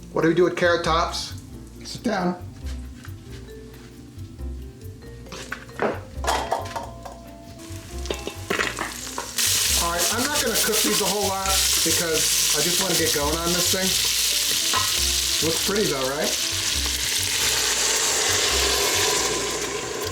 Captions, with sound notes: What do we do with carrot tops? Sit down. (thuds) (metal rings) All right, I'm not gonna cook these a whole lot because I just wanna get going on this thing. Look pretty though, right? (sizzles)